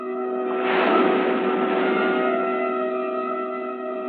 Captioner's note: waves crashing